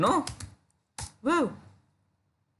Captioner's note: typing